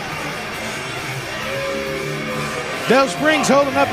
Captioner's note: crowd boos